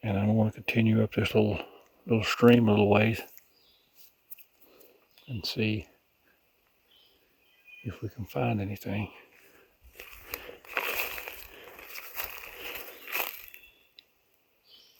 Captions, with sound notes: and I'm gonna continue up this little stream a little ways and see if we can find anything. (leaves crunching)